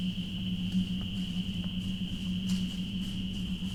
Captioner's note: sound of chirping crickets and cicadas